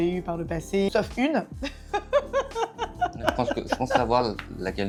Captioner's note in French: rires